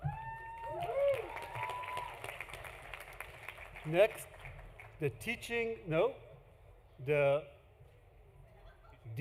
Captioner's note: applause